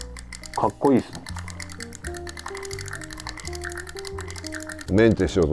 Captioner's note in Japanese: リールの音